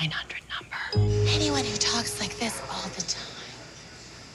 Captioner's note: breathy